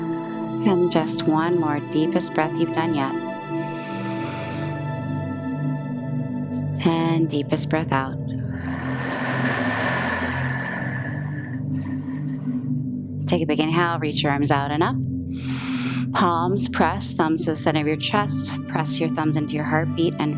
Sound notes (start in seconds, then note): 3.4 inhales; 8.4 exhales; 15.3 inhales